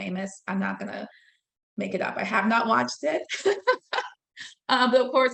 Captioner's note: laughing